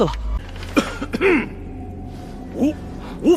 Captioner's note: ahem